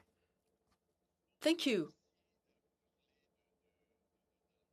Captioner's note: speaking FRENCH